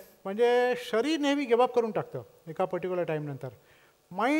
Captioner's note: none